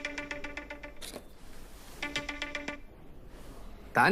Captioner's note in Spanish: Suena celular